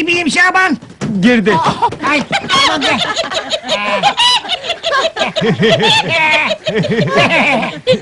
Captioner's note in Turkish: kadinlar topluca gülerler